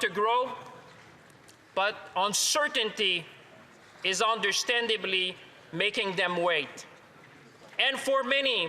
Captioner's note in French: voix de l'interprète